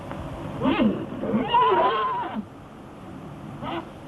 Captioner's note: horse whinnying